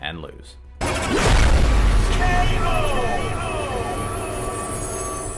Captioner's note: graphic crashing